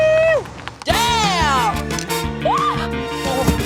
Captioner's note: shrieks